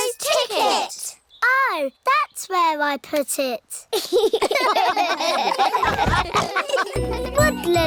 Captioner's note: all laugh